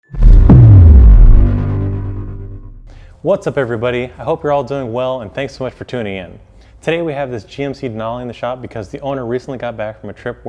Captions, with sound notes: (metallic reverb) - What's up everybody? I hope you're all doing well and thanks so much for tuning in. Today we have this GMC Denali in the shop because the owner recently got back from a trip